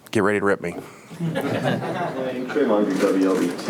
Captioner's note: audience laughs